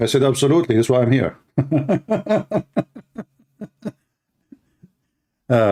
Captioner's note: Ketawa